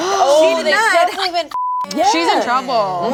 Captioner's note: beep